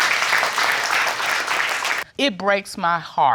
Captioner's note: audience applauding